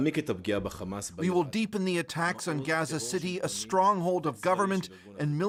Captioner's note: speaking Alternate Language